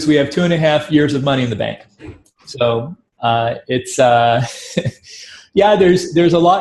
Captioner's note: chuckles